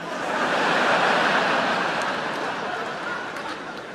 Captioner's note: audience laughing